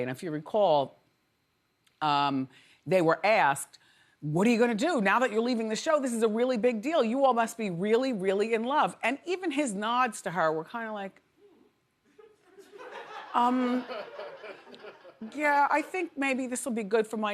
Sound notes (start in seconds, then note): 12.2 audience laughs